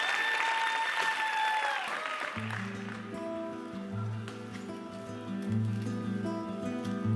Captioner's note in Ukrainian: оплески